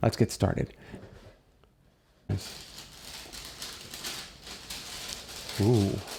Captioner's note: crinkly unwrapping noises